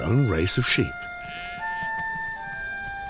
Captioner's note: sheep bleat